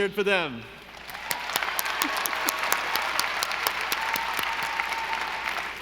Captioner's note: audience applauding